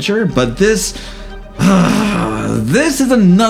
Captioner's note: growl of frustration